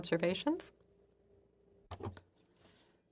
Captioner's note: speaking French